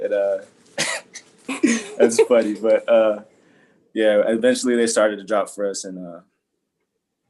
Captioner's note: laugh